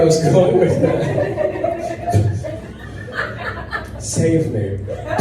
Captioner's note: audience murmuring, laughing